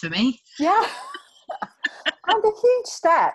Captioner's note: laughs